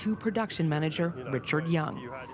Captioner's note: sirens